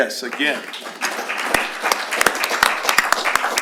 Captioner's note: applause